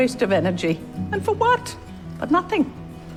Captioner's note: voiceover